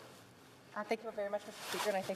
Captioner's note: speaking French